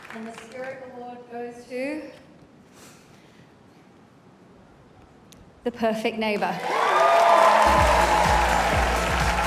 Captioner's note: applause